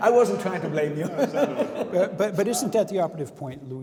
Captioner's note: laughing